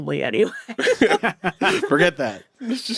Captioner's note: all laughing